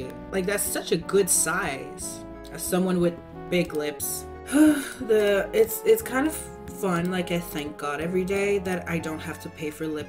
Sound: sigh

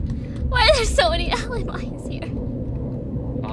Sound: laughing

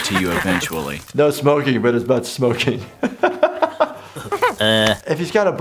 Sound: laughter

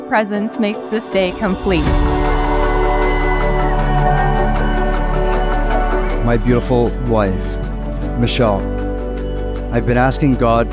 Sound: cheering

